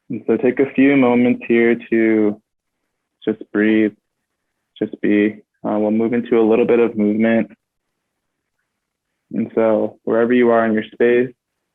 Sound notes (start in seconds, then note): none